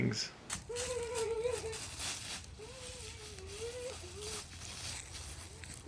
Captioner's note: happy Noises